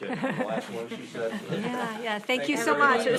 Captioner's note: board laughs